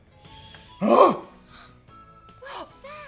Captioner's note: gasps